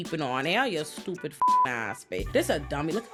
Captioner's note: beep